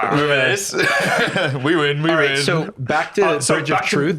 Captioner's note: laughs